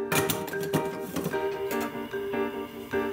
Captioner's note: hiss